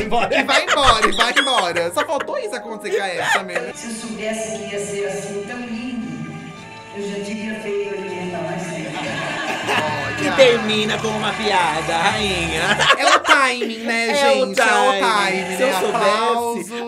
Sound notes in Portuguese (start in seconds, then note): 8.9 risos